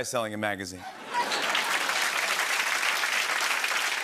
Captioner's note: laughter and applause